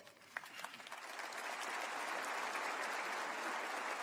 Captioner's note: applause